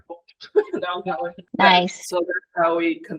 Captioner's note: tower plays a sound